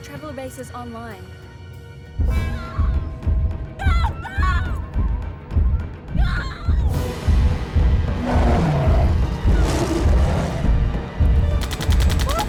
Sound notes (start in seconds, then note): 3.0 loud footfalls; 3.0 screaming; 7.2 intense music